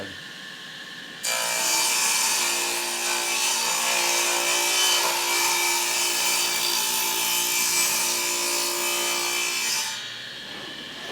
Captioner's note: saw Noise